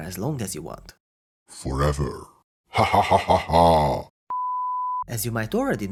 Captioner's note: evil laugh